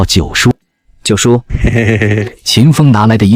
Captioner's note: chuckles